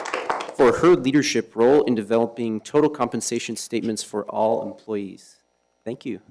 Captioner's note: applause